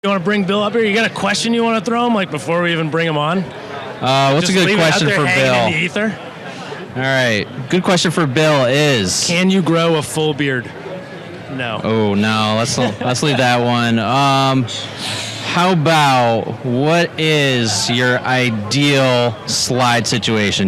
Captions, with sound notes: - You wanna bring Bill up here? You got a question you wanna throw him like before we even bring him on? - Uh, what's a good question for Bill? - Just leave it out there hanging in the ether? - All right, good question for Bill is-- - Can you grow a full beard? No (chuckles). - Oh, no. Let's leave that one. How about, what is your ideal slide situation?